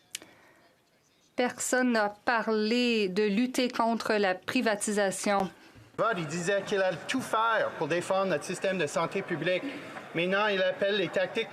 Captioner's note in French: voix de l'interprète